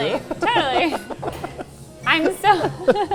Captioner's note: both chuckling